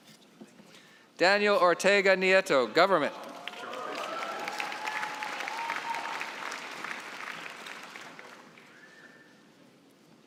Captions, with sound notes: Daniel Ortega Nieto, government. (cheering and applause)